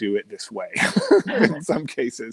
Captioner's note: laughing